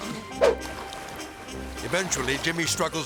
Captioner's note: melodic music; air swoosh